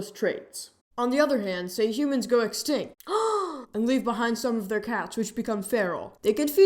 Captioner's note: gasp!